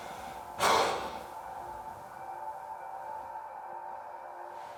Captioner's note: Danny sighs